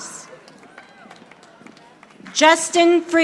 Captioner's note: audience applauding